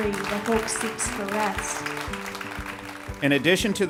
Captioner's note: ^applause^